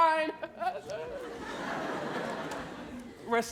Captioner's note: audience laughing